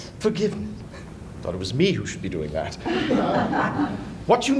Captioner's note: laughter